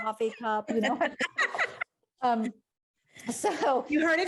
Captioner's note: laughs